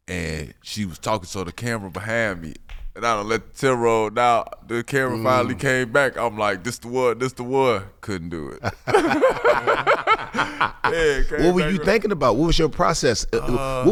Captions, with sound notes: and she was talking, so the camera behind me, and I done let the tear roll now. The camera finally came back. I'm like this the one, this the one. Couldn't do it (laughs). (laughing) - What were you thinking about? What was your process?